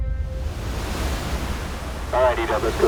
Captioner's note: crashing waves